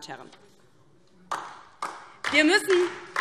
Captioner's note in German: Beifall DIE LINKE